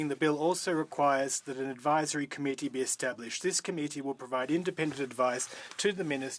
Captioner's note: speaking French